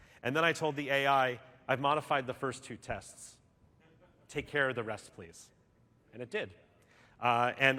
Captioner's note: none